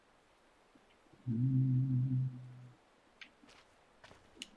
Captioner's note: hums